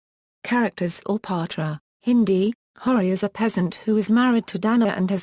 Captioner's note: Hindi